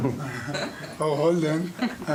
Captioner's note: laughing